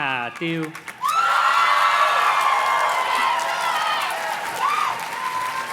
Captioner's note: audience cheers and claps